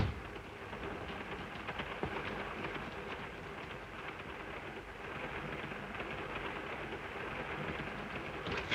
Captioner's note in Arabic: يغلق الباب; صوت خشخشة القطار